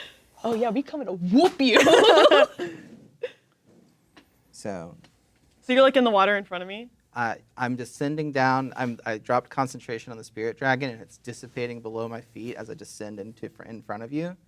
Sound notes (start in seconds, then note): 1.7 both laughing